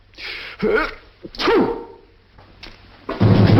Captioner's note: sneezes